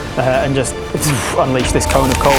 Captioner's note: zoof